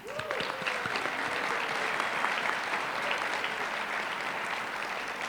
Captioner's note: applause